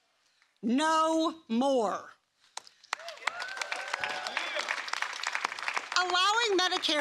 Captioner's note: applause